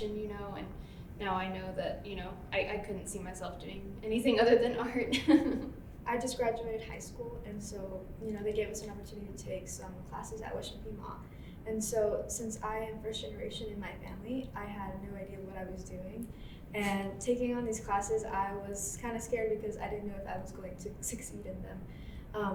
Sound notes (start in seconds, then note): 5.2 chuckle